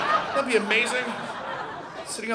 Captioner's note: audience laughing